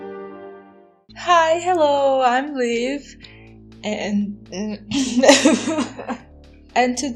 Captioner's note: coughs